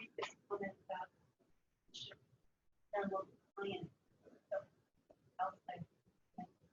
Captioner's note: audio drops